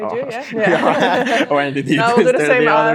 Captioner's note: group laughs